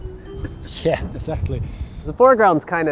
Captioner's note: laughing